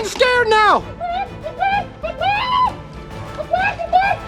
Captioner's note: clucks